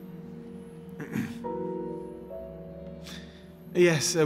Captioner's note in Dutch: Peter schraapt keel